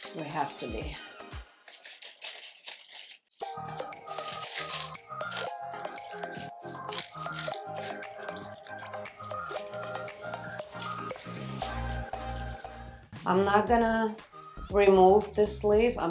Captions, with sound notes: We have to be. (upbeat music) (leaves rustling) I'm not gonna remove this leaf,